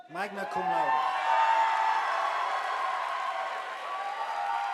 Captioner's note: audience applauding